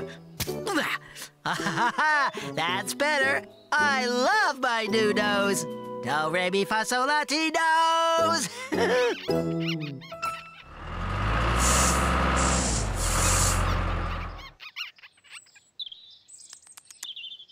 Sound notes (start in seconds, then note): 8.4 chuckling; 10.6 engine Running; 14.0 bunnies Squeaking